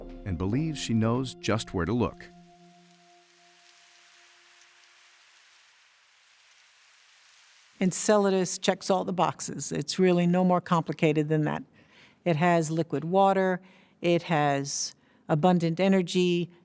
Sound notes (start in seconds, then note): 2.2 plumes shooting out particles that crackle in the air